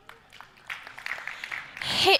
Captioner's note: applause